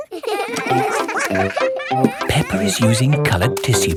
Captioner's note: all giggling